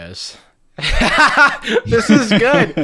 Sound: loud laughter

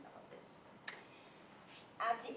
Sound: clap

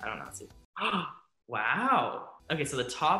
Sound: gasps

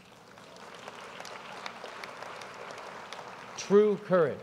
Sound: applause

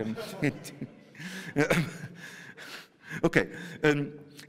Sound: chuckling

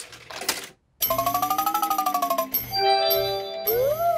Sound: beeps and chimes

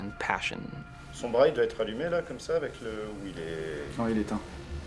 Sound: in french

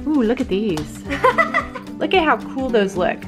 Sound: laughs

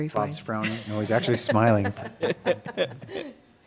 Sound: laughter

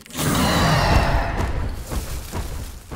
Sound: growling

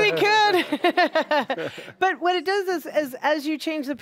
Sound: laughing

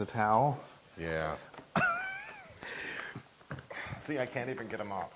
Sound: laugh

